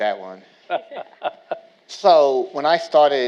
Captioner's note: laughs